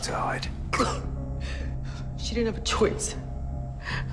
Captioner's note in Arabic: سعال